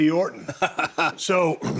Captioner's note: Cody chuckles